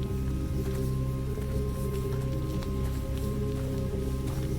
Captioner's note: footsteps crunch